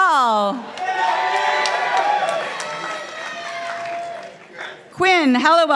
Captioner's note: participants applauding